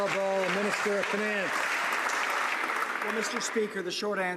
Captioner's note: some Applause